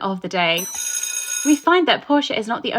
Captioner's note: bell ringing